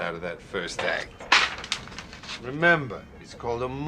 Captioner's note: papers flapping